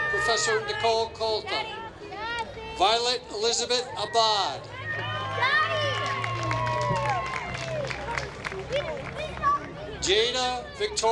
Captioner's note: applause